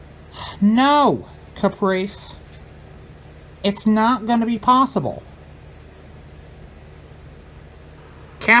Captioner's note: none